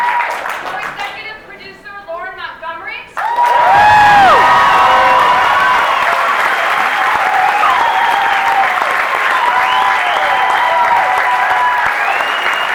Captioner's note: cheering